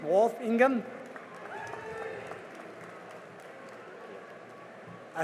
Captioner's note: cheering and applause